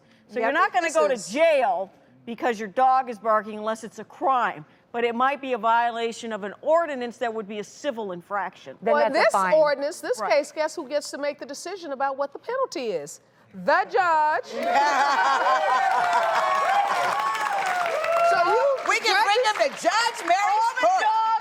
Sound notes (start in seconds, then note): 14.5 audience laughs, cheers, and applauds